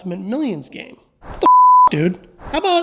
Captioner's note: beep